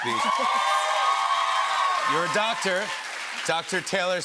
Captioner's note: cheers and applause